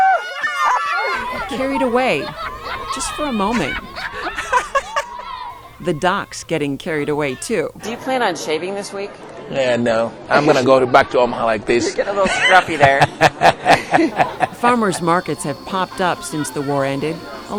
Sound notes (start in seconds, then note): 5.3 giggling